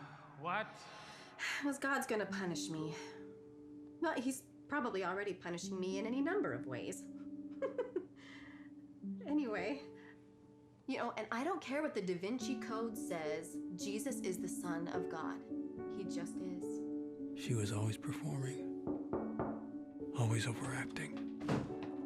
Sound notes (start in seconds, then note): 7.5 giggling; 16.7 narrating; 18.8 knocking on door; 19.6 narrating